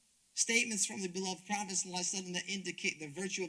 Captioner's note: speaks Arabic